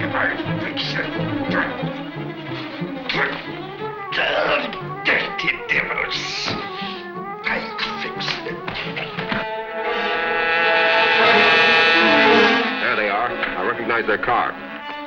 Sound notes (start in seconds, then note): 3.5 Axford mutters; 9.2 Black Beauty buzzes